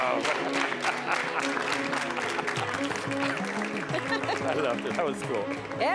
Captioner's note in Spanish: Aplausos